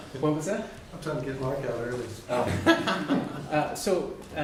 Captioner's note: laughter